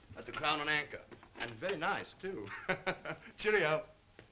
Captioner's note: chuckles